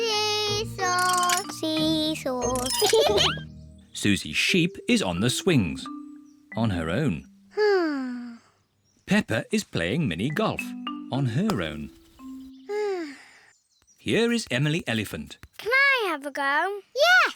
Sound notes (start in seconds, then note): 2.8 both laugh; 7.8 sighs; 12.8 sighs